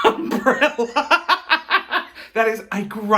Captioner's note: laughing